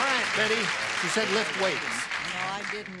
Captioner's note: cheering